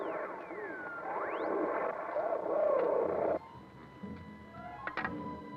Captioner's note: radio whirring and buzzing